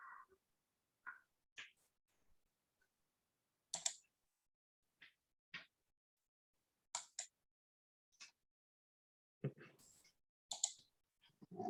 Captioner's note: pause